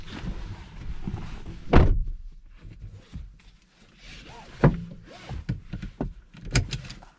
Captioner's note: driver's door